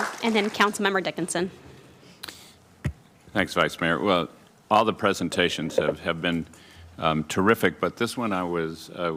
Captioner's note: applauding